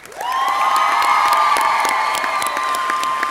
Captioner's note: audience cheering; audience clapping